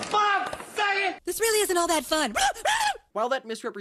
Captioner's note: incoherent screaming